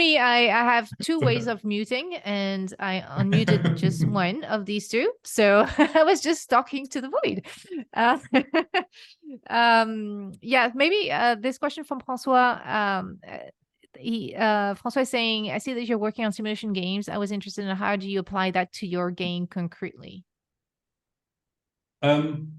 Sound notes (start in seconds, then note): 8.2 laughs